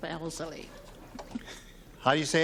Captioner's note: chuckles